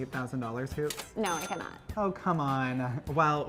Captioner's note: cash register dings